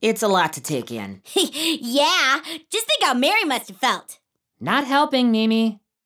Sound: laughs

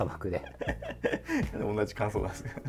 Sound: laughing

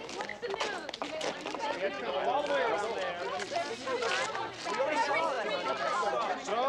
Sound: general chatter

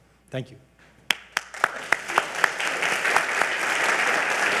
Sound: all applauding

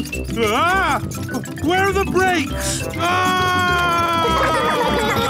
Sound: scream

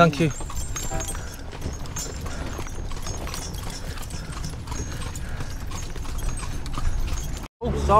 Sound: jingling noise and traffic noise

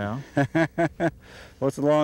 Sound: laughter

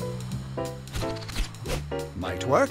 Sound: whooshing

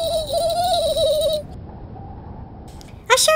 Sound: wind howling

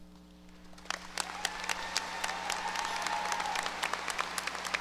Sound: audience applause

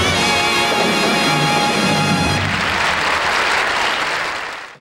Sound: audience applauding

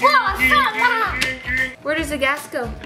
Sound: car beeping noises

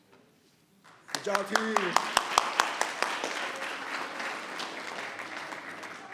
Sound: applause

